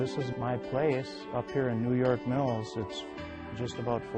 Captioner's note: voiceover